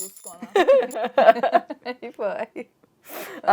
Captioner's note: both laughing